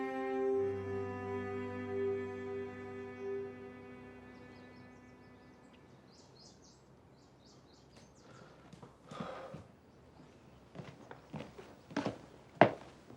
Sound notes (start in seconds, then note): 4.7 birdsong; 9.1 Cody sighing